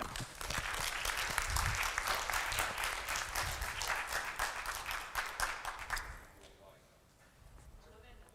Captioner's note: applause